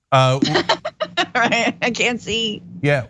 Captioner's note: laugh